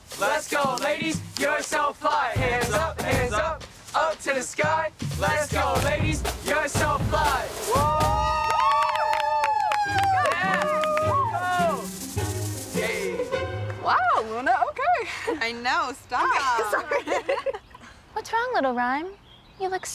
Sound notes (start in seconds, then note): 7.6 girls cheering